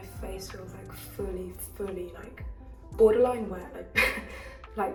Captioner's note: laughs